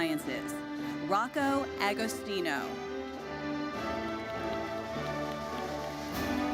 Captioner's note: audience applauds